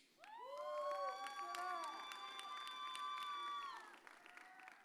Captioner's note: audience cheers